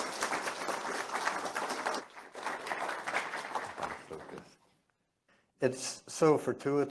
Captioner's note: applause